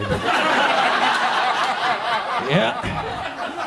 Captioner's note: audience laughs